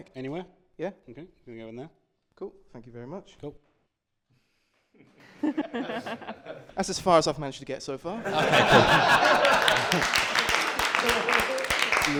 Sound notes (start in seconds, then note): 5.2 laughter; 8.2 laughter and applause